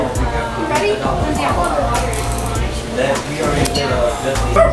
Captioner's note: staff talking